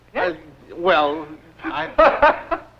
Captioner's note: laughs